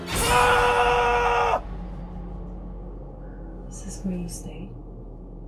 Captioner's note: person shouting